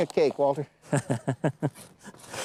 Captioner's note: laughter